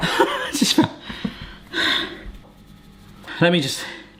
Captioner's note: breathing heavily